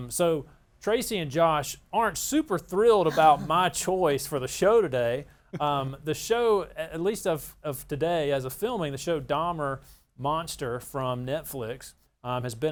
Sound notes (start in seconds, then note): 3.0 laughs; 5.5 laughs